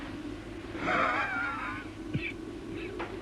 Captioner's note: rasping cough echoes